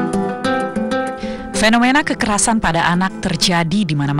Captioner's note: non-english speech